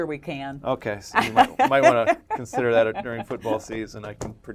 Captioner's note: laugh